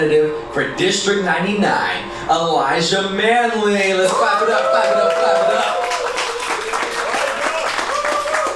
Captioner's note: applause